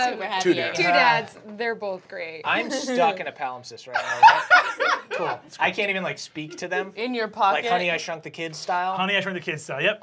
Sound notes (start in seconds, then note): 4.0 laughs